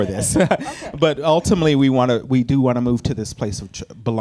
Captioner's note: laughs